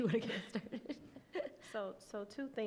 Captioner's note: laughing